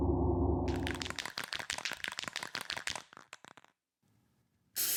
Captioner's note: spray can shaking; spray can spraying